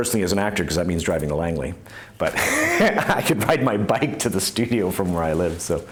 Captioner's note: laughs